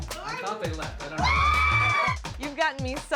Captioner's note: screaming